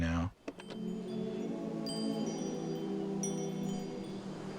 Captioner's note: chiming